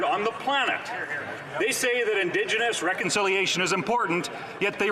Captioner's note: none